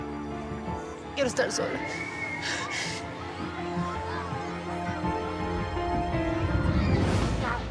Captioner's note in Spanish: sollozos